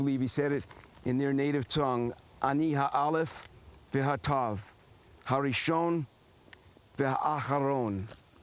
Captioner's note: speaking hebrew